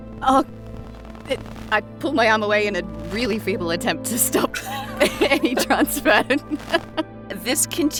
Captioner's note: giggles